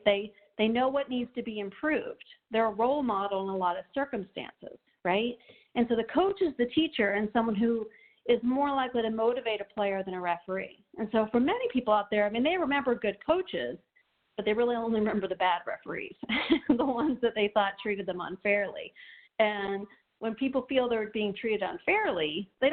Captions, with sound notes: They know what needs to be improved. They are role models in a lot of circumstances, right? And so the coach is the teacher and someone who is more likely to motivate a player than a referee. And so for many people out there, they may remember good coaches, but they really only remember the bad referees (laughing), the ones that they thought treated them unfairly. And when people feel they're being treated unfairly,